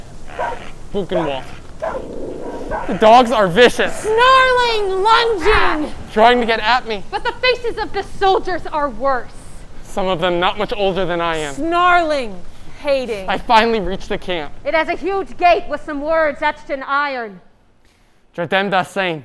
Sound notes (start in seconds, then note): 2.6 Barking dogs, shouting Nazis